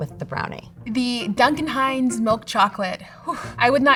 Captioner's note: scoffs